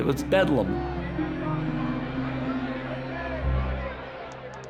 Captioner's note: people clamoring; typewriters clacking, chiming